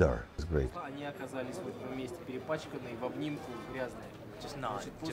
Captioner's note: speaking russian